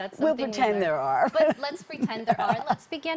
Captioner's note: laughs